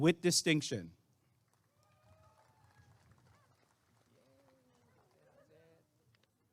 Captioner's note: applause and cheering